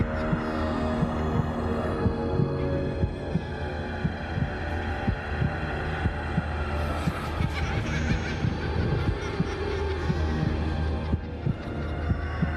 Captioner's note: child laughing